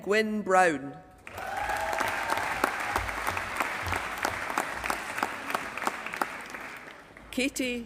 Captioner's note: applause